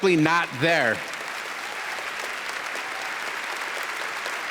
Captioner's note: applause